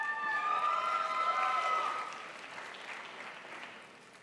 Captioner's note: crowd applauds